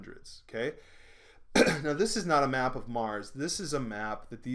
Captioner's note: clearing throat